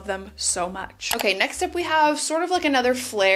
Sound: mouse clicks

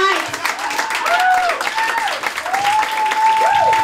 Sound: cheering and applause

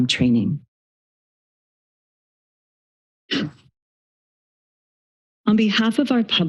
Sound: silence

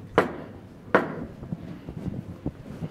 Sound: gavel bangs

